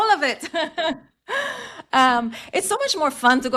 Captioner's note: laughs